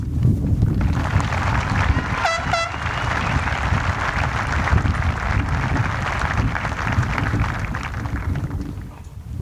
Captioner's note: applause